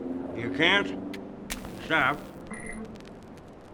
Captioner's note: line disconnects